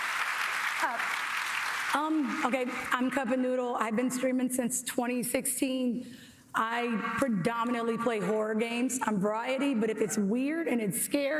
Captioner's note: applause